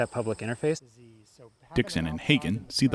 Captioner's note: chattering